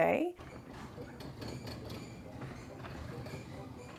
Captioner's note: door whirring